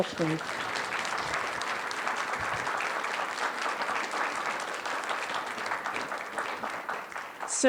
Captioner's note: applause